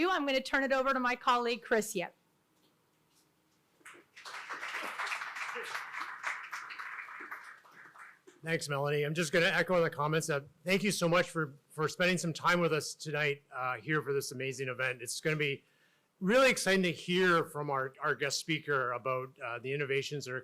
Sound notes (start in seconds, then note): 3.8 audience applauding